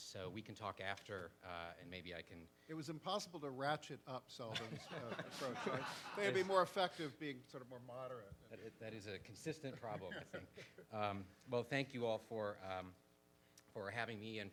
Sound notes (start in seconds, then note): 4.5 participants laugh; 9.7 laughs